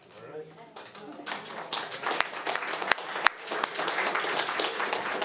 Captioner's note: audience applauding